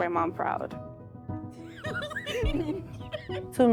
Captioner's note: laughter